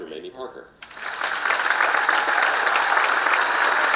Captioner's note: applause